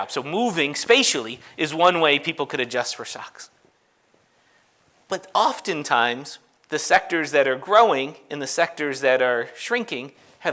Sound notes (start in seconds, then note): none